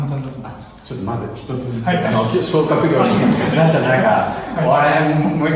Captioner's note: laughs